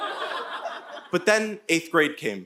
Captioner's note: audience laughing